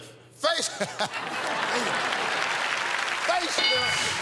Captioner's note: laughs